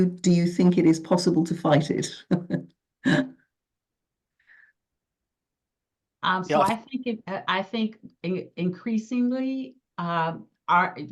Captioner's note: giggle